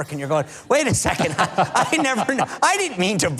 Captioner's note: laughing